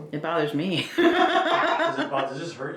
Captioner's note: laughs